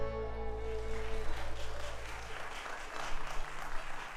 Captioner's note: audience applauding